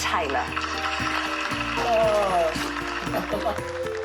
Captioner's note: applause